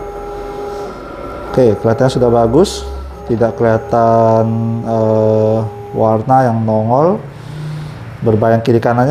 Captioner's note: printer machine noise